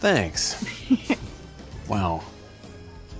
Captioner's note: giggles